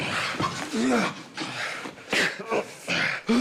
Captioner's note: grunting